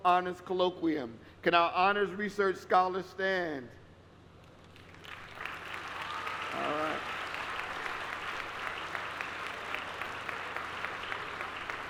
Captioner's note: applause